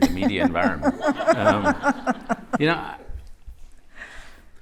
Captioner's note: laughter